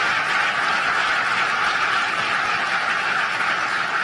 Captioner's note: applause